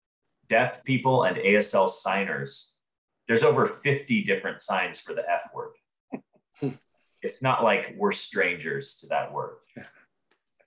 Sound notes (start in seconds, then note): 5.9 chuckles